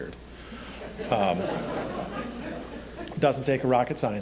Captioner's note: audience laughing